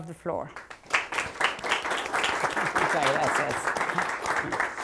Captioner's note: audience applauds